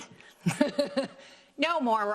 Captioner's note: laughs